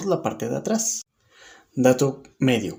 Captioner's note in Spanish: Silencio